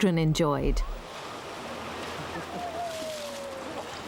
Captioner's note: water rushing